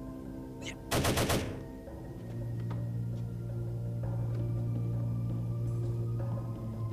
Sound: gun firing; man groaning

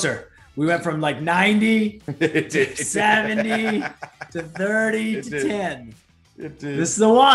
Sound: laugh

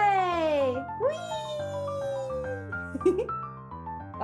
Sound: giggles

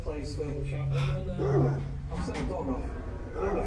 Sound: dog barking

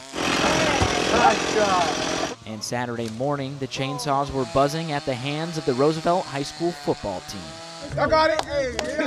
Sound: chain saw buzzing

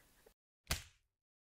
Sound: punch

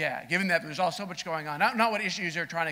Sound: none

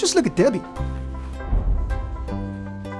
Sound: air whooshing; gentle music

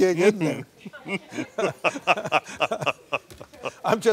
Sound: audience laughs

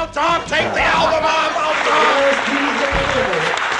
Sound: applause

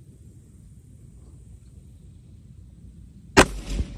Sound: report of the rifle

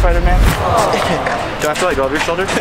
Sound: audience awws

